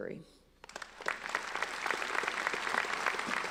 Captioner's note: applauding